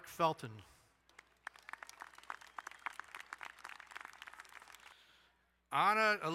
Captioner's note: crowd cheering and applauding